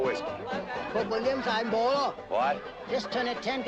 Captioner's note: Ching speaking Chinese